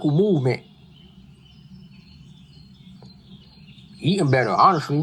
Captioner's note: nature sounds